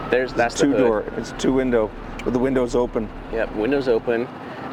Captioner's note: sirens blaring